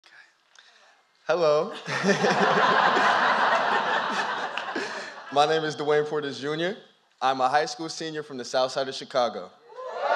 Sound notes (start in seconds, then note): 1.7 laughter